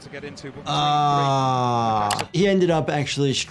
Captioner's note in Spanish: clics del ratón